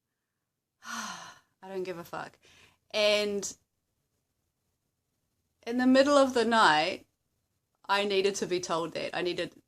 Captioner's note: sigh